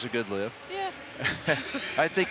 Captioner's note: laughs